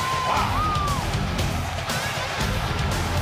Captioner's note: crowd cheering